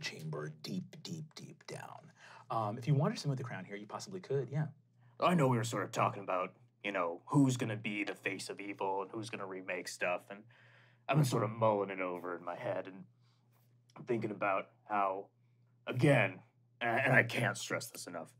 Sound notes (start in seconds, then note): none